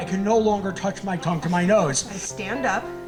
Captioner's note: audience laughing